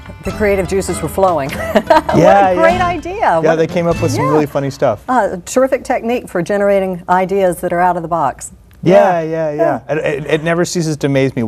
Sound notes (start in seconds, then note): 2.2 laugh